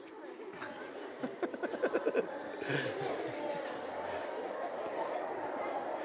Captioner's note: laughter